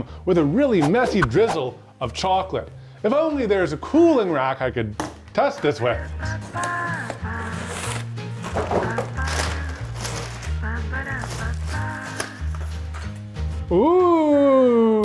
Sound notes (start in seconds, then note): 6.2 light music continues; 8.4 box clinking; 10.2 paper rustling